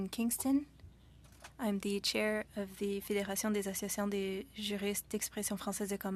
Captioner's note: speaking French